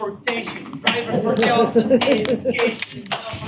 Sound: chanting continues

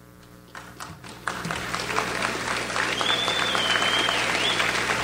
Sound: audience applauds

